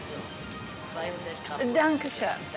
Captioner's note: speaks foreign language